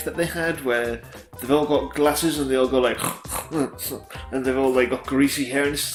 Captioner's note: snorting noises